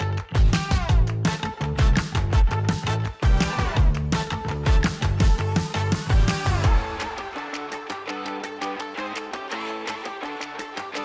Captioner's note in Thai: ปรบมือ